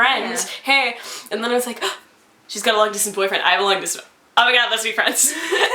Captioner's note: gasp